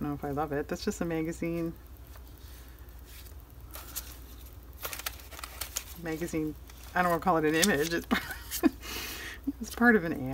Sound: laughs

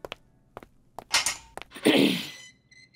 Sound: clears throat; door opening

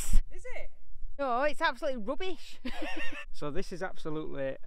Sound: laughing

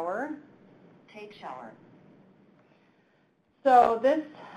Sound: electronic Voice

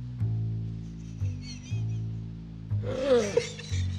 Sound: exhales; groans

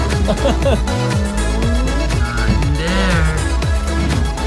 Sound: laughs

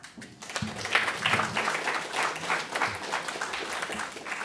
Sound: audience applauding

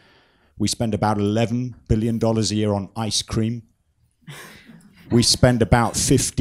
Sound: soft laughter

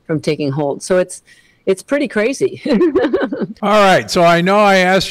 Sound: laughs

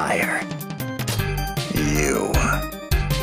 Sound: sexy voice

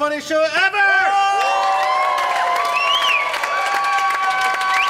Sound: cheering and applause

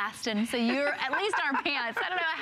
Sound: laughter

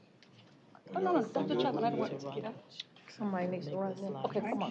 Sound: indistinct chatter

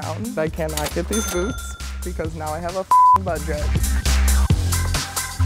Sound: beep; fast-paced upbeat music

